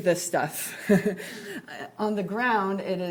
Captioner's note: laughs